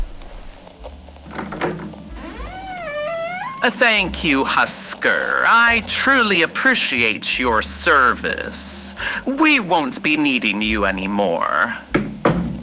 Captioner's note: he opens door fx; slams door fx